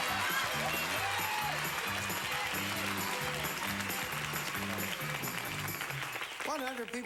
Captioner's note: audience applauding